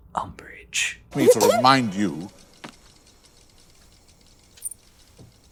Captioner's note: clears throat